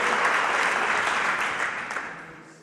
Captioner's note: applause